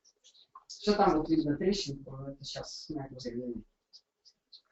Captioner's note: slurred speech